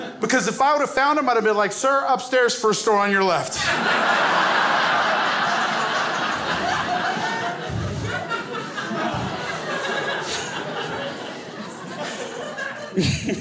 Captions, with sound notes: Because if I would have found him, I'd have been like, "Sir, upstairs, first door on your left." (crowd laughs)